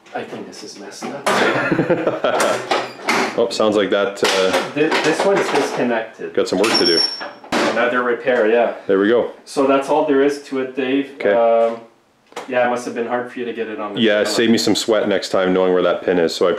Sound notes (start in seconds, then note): 1.3 chuckles; 6.7 engine cover screeches